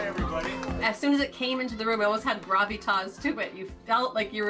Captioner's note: cheers and Applause